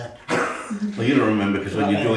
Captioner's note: laughing